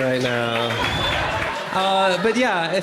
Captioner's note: crowd cheering